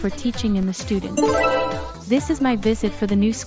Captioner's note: bright Idea Sound